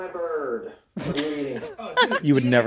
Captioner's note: they laugh